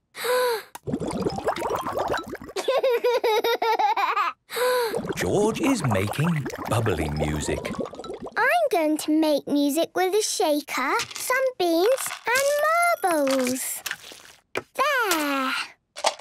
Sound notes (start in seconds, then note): 0.8 water bubbling; 4.7 inhales deeply, water bubbling; 15.9 objects shaking